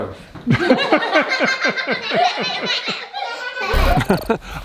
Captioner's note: laughter